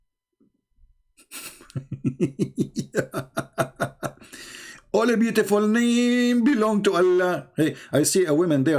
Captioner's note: Ketawa